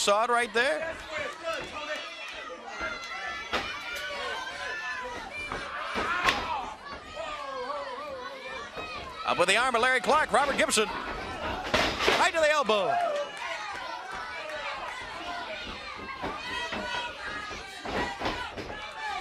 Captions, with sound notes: DUSTY RHODES WAS TALKING ABOUT, YOU SAW IT RIGHT THERE? >> [CROWD CHATTER] >> UP WITH THE ARM BY LARRY CLARKE, ROBERT GIBSON, RIGHT TO THE ELBOW.